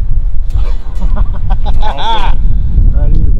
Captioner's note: laughter